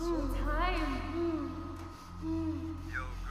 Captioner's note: Kenny grunts